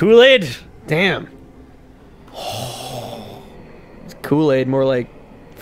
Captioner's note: making weird exhail noises